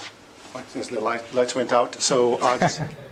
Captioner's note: laugh